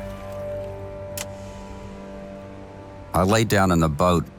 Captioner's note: anchor splashes; switch clicks